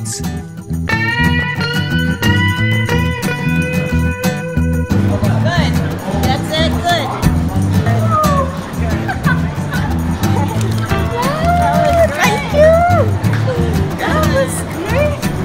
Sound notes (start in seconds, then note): 7.5 laughing